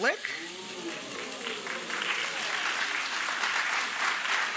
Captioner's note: audience applauds